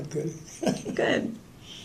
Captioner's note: laughter